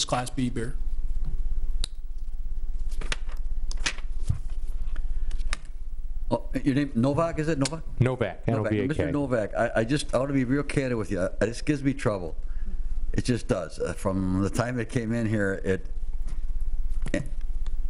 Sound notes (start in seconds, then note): 3.8 paper shuffling